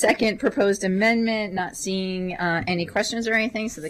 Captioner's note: laughter